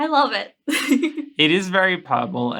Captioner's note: giggling